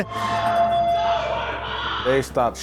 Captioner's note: group cheering